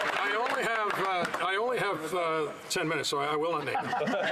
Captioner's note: some Applause